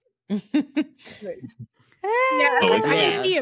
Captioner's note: laughter